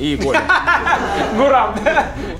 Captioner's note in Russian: смех